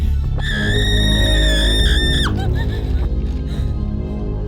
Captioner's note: Dina screams